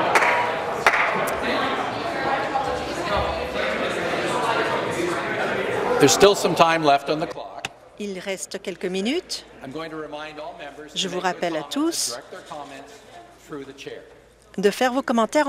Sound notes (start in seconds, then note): 7.1 conversation din